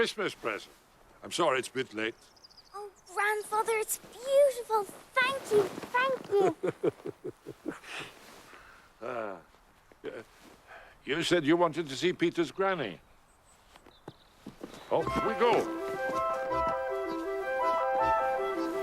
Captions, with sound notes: Your Christmas present. I'm sorry it's a bit late. Oh, grandfather, it's beautiful. Thank you, thank you. [laughing] Yeah, you said you wanted to see Peter's granny. Off we go.